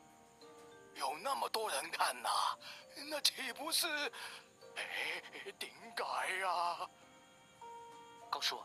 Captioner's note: sigh